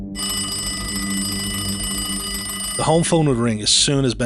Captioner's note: phone rings